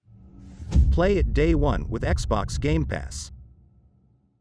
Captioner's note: dramatic sound